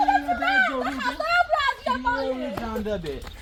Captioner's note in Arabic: ضحك